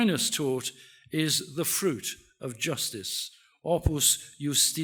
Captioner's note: speaks in foreign language